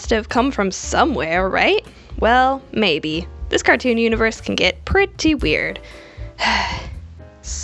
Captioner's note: sigh